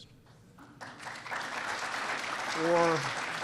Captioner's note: applause